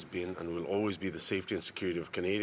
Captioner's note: speaking French